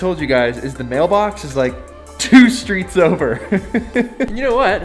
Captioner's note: laughs